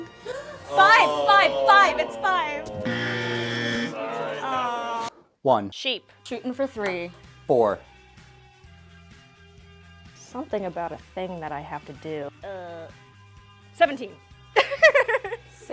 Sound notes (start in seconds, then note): 0.1 gasps; 2.8 buzzer